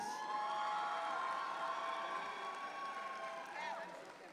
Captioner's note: audience cheer